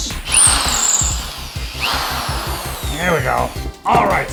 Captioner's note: drill hums